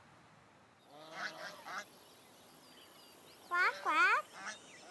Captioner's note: quacking